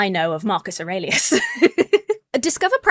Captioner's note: laughs